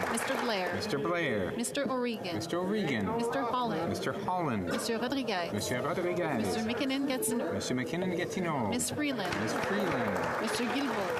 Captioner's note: calling of recorded vote